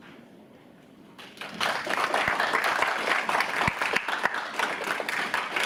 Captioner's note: audience applauds